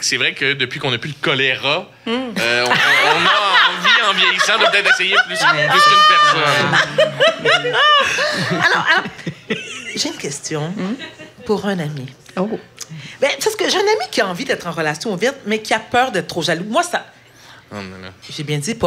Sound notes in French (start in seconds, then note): 6.7 rires